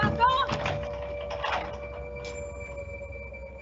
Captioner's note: door closing; lock turning; dramatic music continues